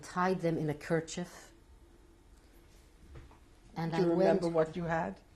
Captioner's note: pauses for 3 seconds